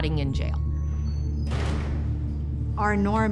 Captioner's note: metal door shuts